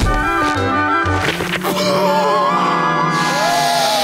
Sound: groaning

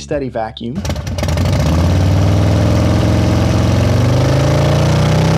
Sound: motorcycle engine roaring

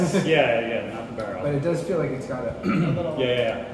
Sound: clears throat

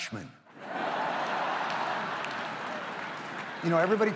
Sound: audience laughs

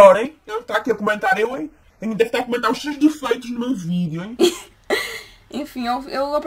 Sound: laughter

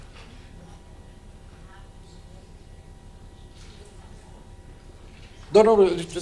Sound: woman speaking faintly

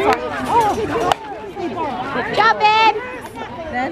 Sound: hits ball

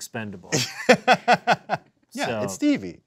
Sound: laughing

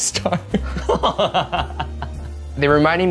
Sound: laughing

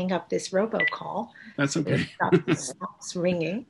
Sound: laughs

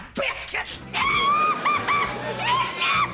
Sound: laughing

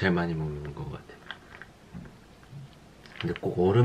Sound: slurping

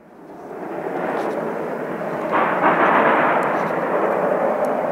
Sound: hard plowing, locomotives slipping

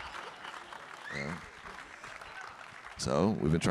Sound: audience clapping; audience member whistling

